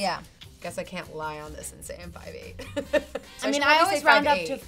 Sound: laughs

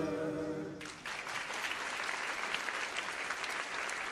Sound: gentle clapping

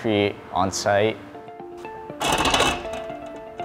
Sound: mechanical noises

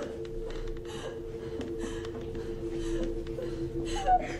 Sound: deep ragged breathing

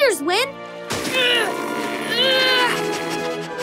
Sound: grunting

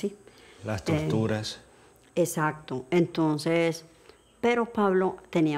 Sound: speaking in foreign language

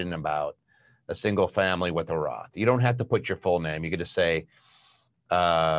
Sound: none

